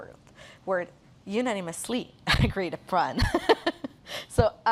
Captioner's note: laughs